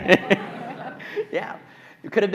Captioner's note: audience laughing